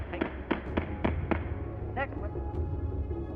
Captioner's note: gavel pounding